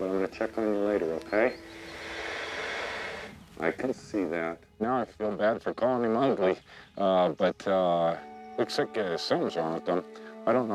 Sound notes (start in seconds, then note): 1.5 bear huffing